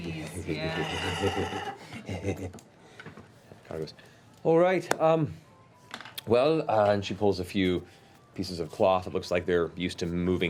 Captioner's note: creepy chuckling